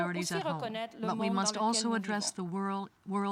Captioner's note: speaking french